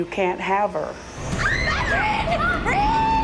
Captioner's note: screaming